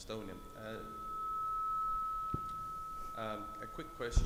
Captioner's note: microphone feedback